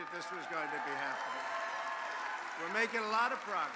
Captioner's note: applause